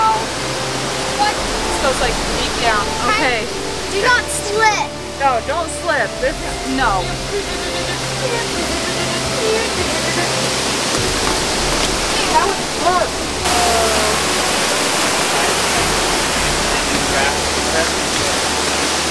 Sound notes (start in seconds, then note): 7.8 makes laser sounds; 16.2 water rushing